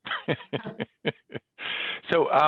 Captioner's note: laughs